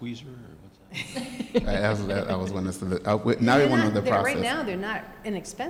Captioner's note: laughter